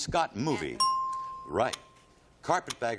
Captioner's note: ding